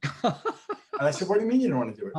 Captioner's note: laughing